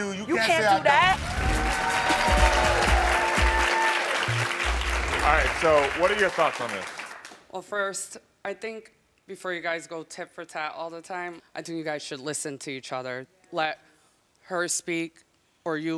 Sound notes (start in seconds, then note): 1.0 crowd cheering; 1.1 crowd clapping